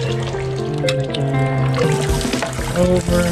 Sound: muttering to self

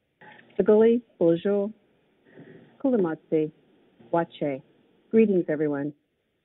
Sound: speaks in foreign language

